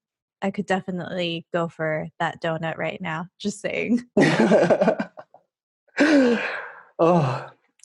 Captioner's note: laughing